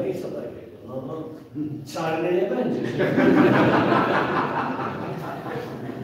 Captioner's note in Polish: śmiech z sali